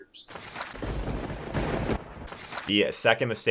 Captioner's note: thunder cracks